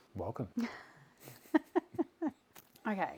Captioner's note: laughing